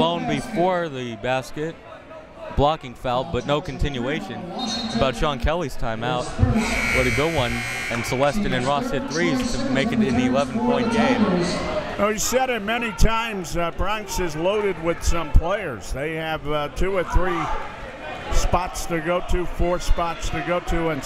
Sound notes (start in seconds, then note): 4.2 whistle tweeting; 6.6 buzzer ringing